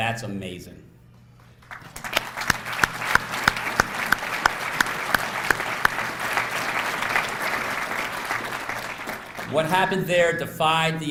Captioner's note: applause